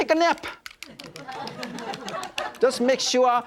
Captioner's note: audience laughing